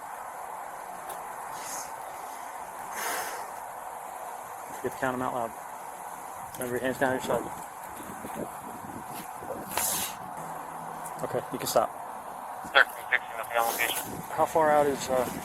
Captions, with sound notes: Don't forget to count them out loud Remember, your hands down at your side Okay, you can stop (Radio chatter) How far out is uh,